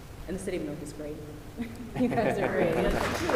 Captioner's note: applause